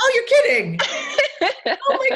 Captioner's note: laughing